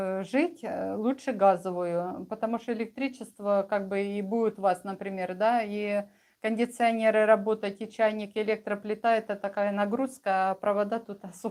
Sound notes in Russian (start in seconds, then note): none